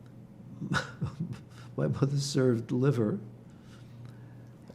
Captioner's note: laughing